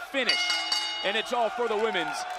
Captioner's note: bell dinging